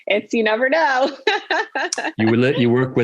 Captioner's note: laughing